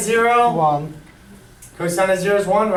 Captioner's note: voiceover